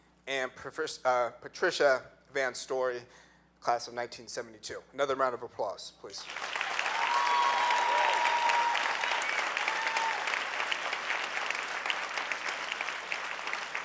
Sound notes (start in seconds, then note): 6.6 clapping; 8.1 cheering